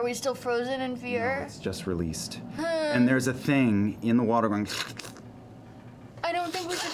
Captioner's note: slithering